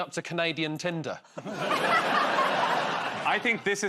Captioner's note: laughter